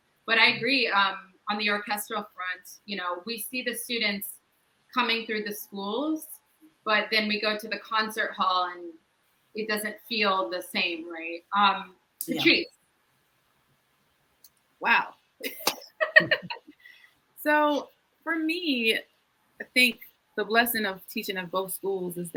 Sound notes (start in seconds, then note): 15.5 all laugh